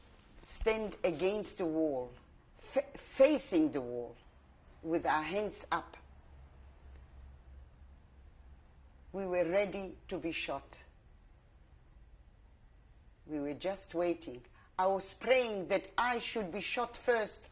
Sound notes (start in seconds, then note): 5.8 pauses for 3 seconds